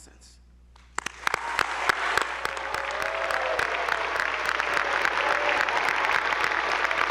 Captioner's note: attendees applauding; audience cheering